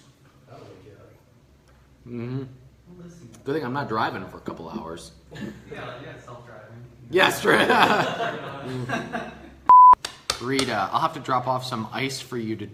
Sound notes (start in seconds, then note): 7.4 laughter